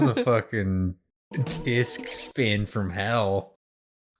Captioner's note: sound akin to a funky record spin